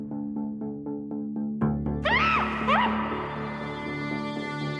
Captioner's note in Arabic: يصرخ أفنان